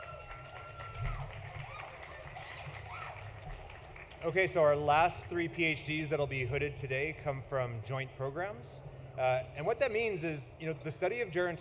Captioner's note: applause